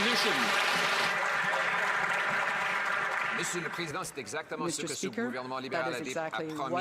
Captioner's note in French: voix de l'interprète